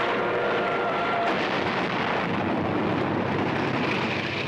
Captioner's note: ship explodes